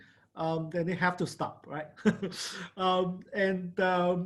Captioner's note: laughs